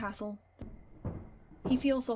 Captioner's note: footsteps fading